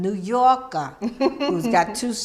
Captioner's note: laughing